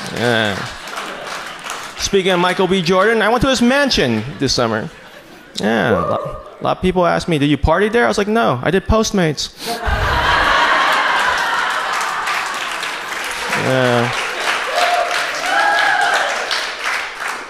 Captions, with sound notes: Yeah. Speaking of Michael B. Jordan, I went to his mansion this summer. A lot of people asked me, did you party there? I was like no, I did Postmates. (audience cheers) Yeah.